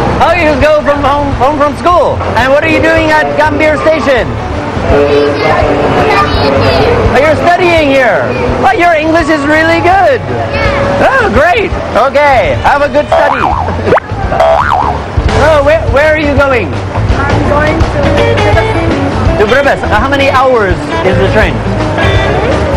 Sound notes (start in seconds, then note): 14.2 boing